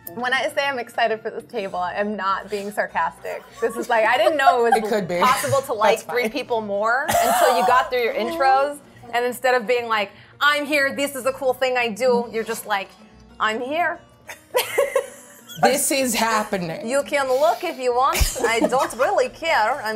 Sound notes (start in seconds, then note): 14.5 laughs